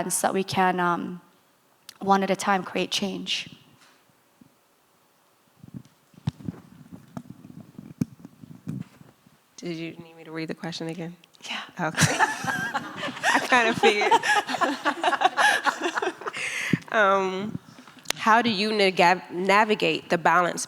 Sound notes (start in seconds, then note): 11.9 laughing